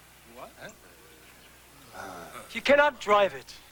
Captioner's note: mixed murmurs